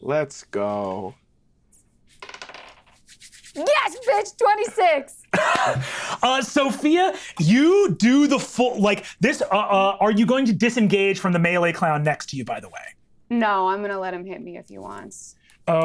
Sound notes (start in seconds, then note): 2.2 dice rattling; 5.3 laughs